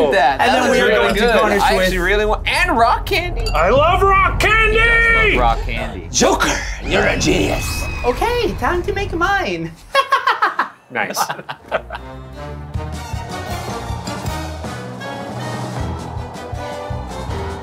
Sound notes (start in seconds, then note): 9.9 laughing; 11.9 bouncy circus music